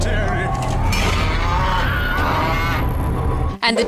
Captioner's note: cow mooing